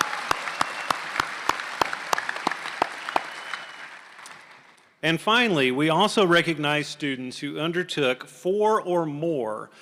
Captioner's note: applause